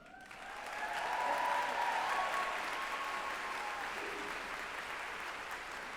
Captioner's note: group applauding and cheering